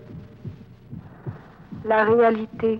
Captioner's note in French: battement cardiaque